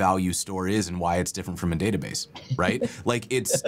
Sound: laughter

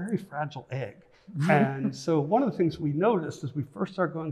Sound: chuckles

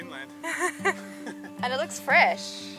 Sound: laughs

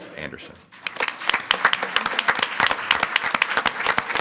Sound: audience clapping

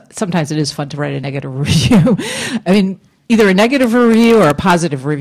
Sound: laughs

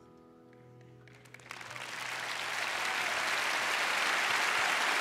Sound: cheers and applause

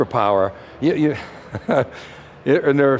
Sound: laughs

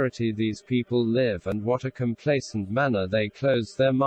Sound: voice reads

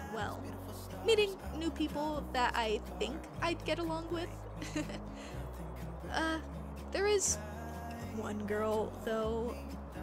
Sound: laughs

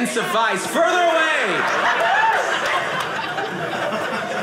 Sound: audience laughing

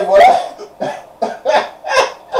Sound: laughs

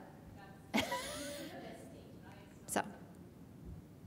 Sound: laughs

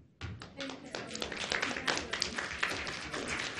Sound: applause

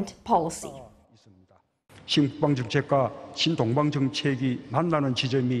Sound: Korean

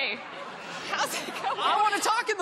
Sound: laughing; laughter

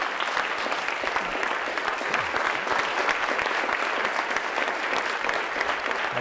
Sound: applause

